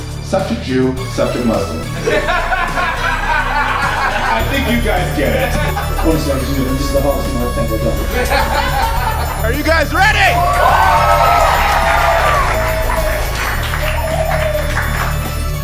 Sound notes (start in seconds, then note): 10.5 cheers and applause